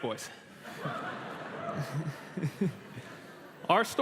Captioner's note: laughter